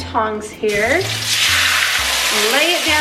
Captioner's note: pan sizzling